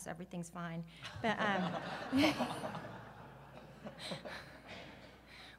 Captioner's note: audience laughs